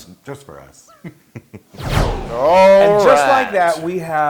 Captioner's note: laugh